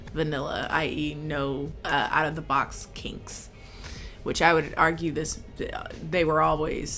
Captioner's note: none